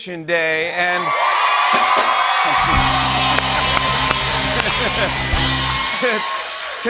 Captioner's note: cheering and applause